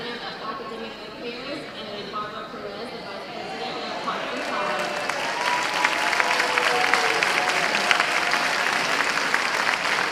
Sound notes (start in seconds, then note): 5.0 cheers and applause